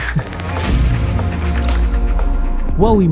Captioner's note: both gentlemen laughing